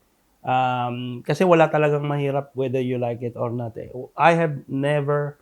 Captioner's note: hindi